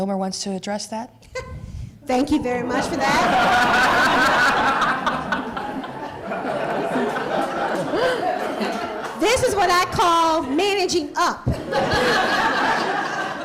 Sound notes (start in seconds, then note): 5.4 laughter